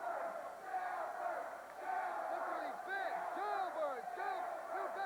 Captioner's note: crowd cheering